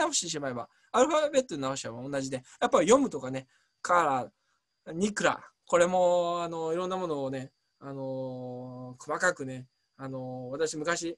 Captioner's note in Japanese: ヘブライ語で